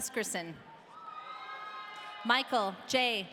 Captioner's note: audience cheering